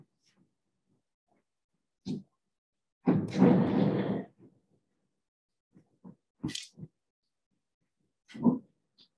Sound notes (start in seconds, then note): 3.1 chair rumbles